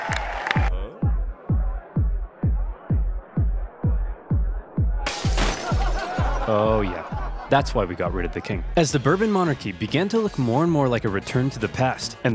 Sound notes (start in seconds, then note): 0.2 energetic music; 2.7 crowd; 5.0 partiers laughing; 5.0 glass shatters